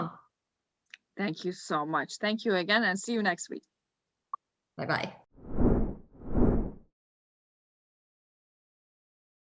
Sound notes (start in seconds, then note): 5.4 air whooshing